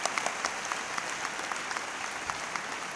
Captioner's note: applause